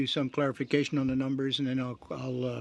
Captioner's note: speaking French